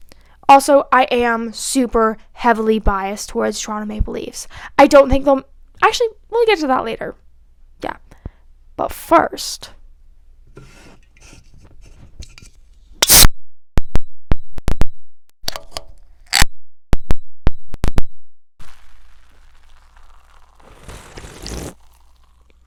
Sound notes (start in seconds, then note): 10.4 can cracks open; 18.6 sip